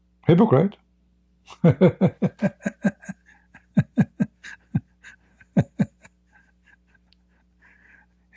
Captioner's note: Ketawa